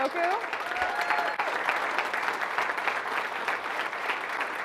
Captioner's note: audience applauding